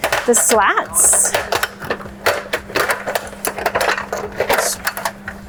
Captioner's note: slats clattering